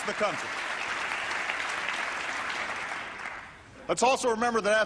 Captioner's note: applause